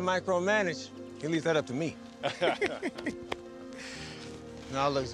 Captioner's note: laughs